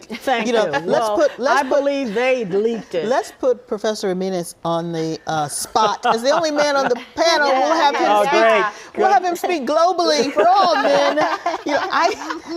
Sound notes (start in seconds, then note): 5.7 laughter